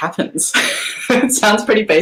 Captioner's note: laughing